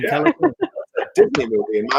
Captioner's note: laughter